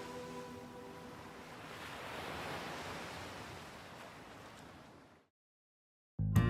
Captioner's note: waves lapping; moving music